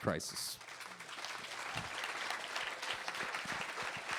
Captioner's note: applause